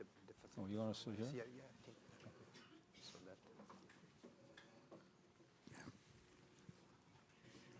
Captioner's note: speaking faintly